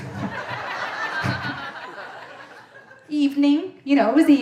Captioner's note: audience laughing